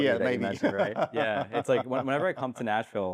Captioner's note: laughs